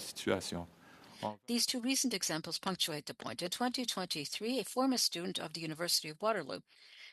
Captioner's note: speaking French